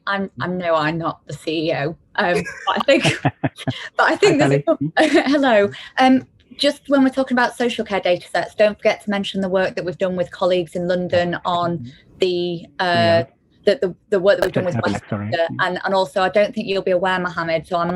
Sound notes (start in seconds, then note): 2.3 laughter